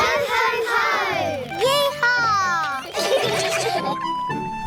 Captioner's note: all giggle